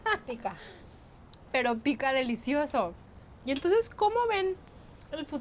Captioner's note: speaking Spanish